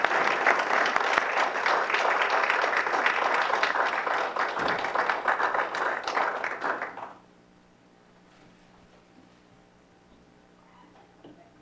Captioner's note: applause